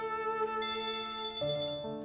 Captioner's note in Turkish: Telefon zil sesi